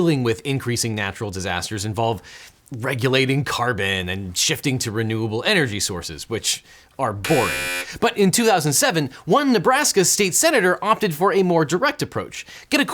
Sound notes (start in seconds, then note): 7.2 buzzer sounds